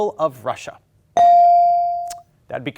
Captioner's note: ding chimes